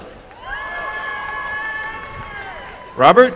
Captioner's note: applause and cheering